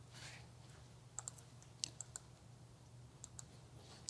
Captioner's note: keyboard clicking